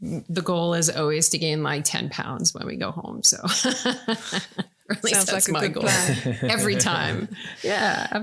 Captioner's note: laughing